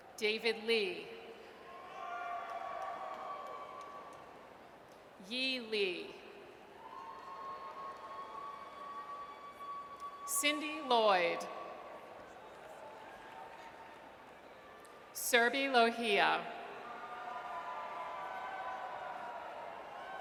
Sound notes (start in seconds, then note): 1.6 audience cheers; 6.8 audience cheers; 16.8 audience cheers